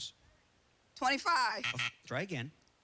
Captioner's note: buzzer